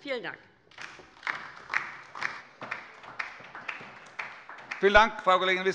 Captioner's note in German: Beifall bei der LINKEN